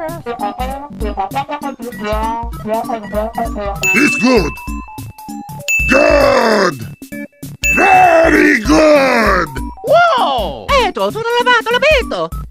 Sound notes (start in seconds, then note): 3.8 ding; 5.6 ding; 7.6 ding; 10.7 italian gibberish